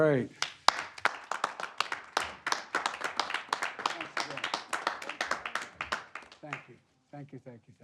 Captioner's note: applause